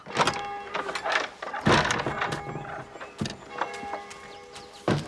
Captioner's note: church bell tolling